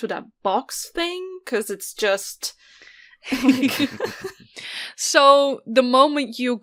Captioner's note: laughs